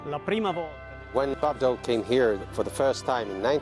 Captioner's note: light instrumental music; voiceover